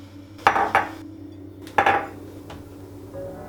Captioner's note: new mugs clatter on counter